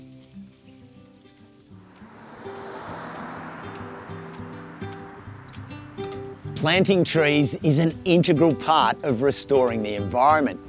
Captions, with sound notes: [birds chirping] [traffic sounds] [acoustic music plays] - Planting trees is an integral part of restoring the environment